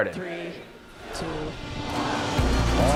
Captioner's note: crowd; upbeat soft music